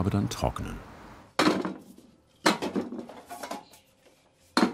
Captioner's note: dull bang, clanking